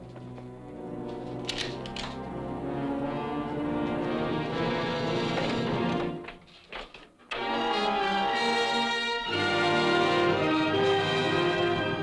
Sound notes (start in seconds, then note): 1.2 gun clacks; 7.3 romantic orchestral music